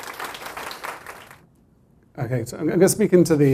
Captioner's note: applause